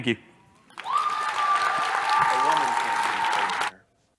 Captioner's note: applause